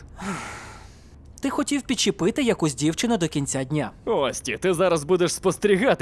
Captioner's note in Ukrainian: зітхає